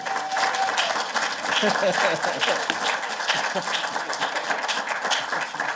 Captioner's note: applause